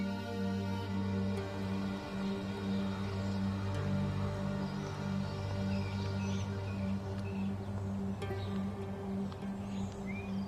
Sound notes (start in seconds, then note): 6.0 birds chirping